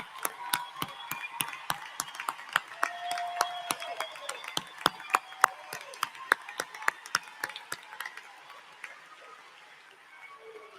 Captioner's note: applause